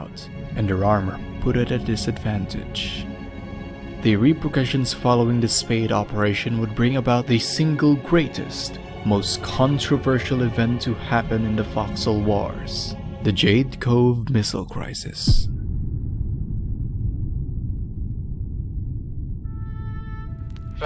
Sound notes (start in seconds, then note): 8.3 music rises; 10.8 music rises; 12.5 music swells; 15.5 bass rumble